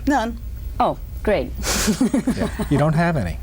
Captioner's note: laughs